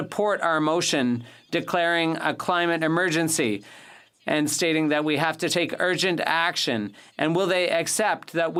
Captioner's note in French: voix de l'interprète